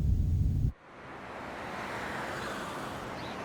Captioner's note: cars passing, birds chirping